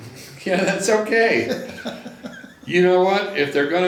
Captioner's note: laughs